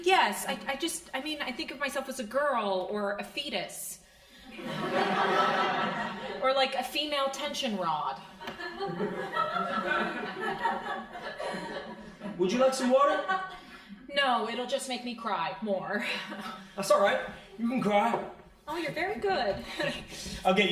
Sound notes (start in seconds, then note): 4.5 crowd laughing; 8.4 crowd laughing